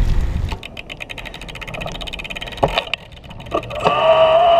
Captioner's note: gears clicking; motor whirring